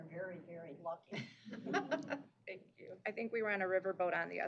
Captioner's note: chuckles